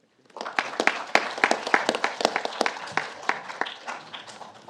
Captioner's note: audience applauds